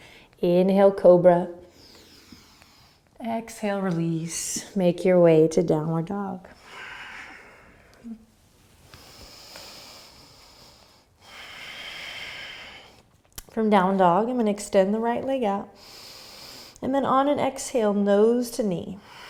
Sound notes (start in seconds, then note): 6.6 deep breathing; 15.9 inhaling; 19.0 exhaling